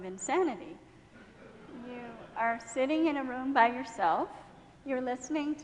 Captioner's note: laughing